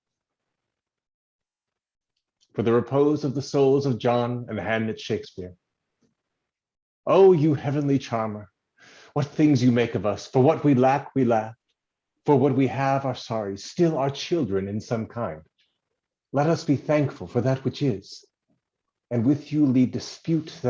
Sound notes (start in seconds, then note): 5.9 silence